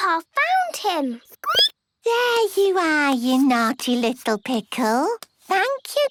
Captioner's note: squeaking